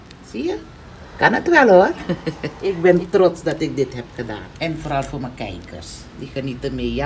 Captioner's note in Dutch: lachend